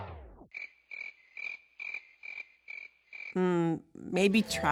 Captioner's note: crickets chirping